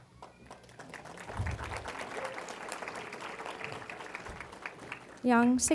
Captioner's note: applause